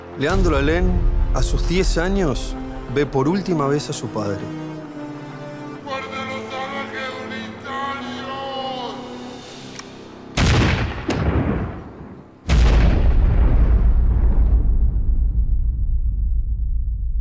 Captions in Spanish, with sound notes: Leandro Alén, a sus 10 años, ve por última vez a su padre. ¡Muerte a los salvajes unitarios! [Disparos]